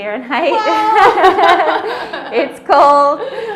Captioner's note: laughing